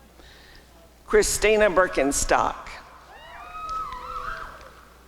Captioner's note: applause and cheering